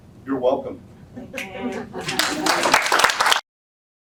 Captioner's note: applause